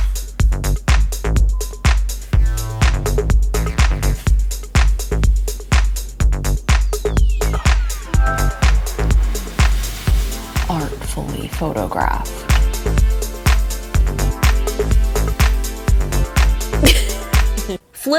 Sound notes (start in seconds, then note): 8.2 device chimes; 16.8 chuckles